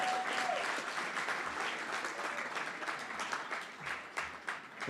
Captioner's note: applause & Cheering